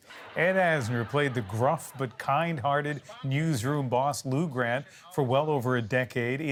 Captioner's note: laughter